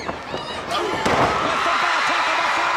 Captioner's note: blows thudding; body thudding